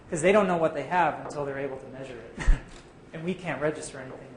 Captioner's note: chuckle